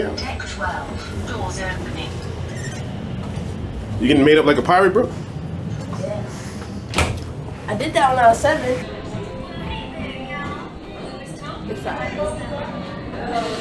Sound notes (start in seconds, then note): 9.9 people chattering